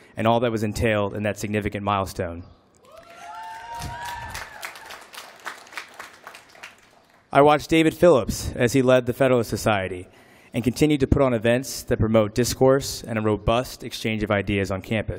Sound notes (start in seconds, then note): 2.8 applause